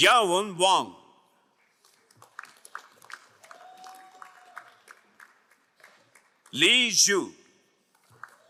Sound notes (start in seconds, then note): 1.6 crowd applauding